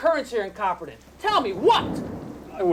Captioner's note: thunder rumbling